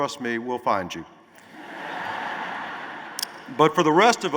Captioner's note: laughter